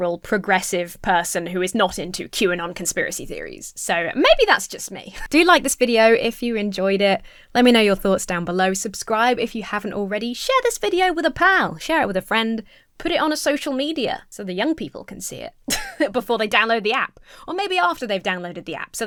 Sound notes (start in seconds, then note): 15.6 chuckles